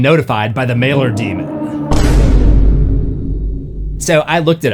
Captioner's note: boom